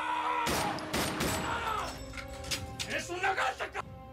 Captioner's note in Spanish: grito